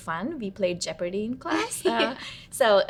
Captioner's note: laughs